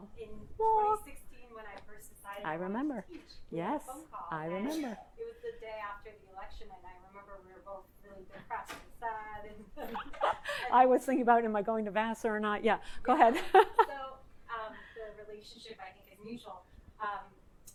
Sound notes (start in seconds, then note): 10.3 laughs; 13.7 laughs